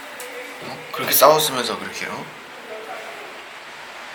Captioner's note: grumble